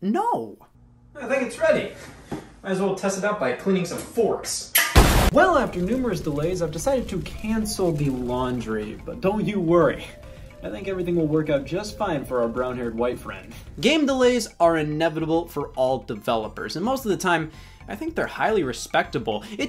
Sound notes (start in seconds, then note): 4.8 washing machine explodes